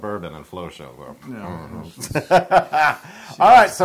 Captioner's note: laugh